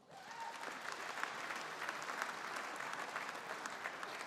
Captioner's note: audience applauding